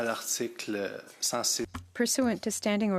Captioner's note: speaking French